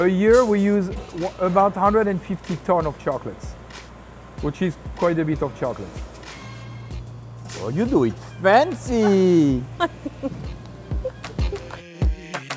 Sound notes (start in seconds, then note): 8.8 laughs